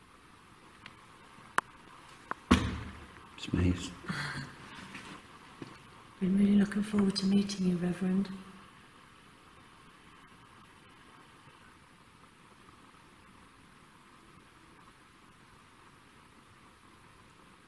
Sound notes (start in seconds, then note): 1.9 foot shuffling; 4.4 laughing